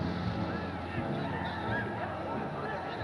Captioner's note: cheering in the distance